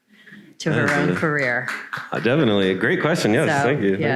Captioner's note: crowd members applaud